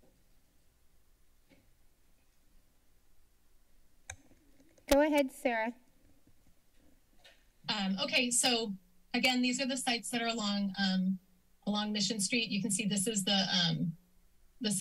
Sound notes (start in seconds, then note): 0.0 silence; 4.1 mouse click; 6.2 silence; 13.8 silence